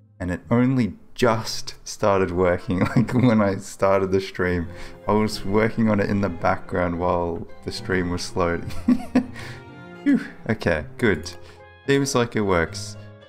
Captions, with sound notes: and it only just started working, like [chuckles], when I started the stream. I was working on it in the background while the stream was loading. [laughs] Whew, okay, good, seems like it works.